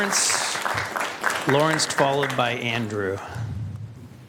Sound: applause

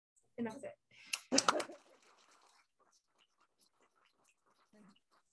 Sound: applause

